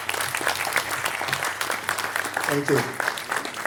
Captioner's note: audience applaude